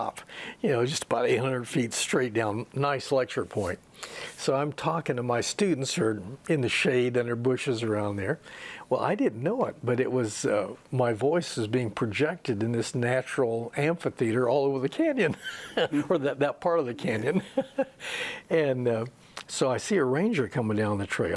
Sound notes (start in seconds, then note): 15.4 laughs; 17.0 he laughs